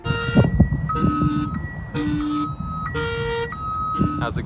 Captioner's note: car alarm squealing